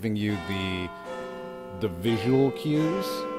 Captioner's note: bell clock chimes